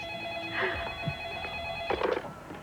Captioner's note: telephone rings